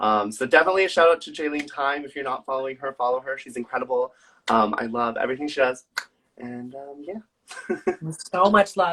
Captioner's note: laughs